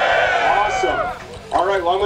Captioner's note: cheering